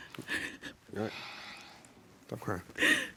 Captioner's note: sobbing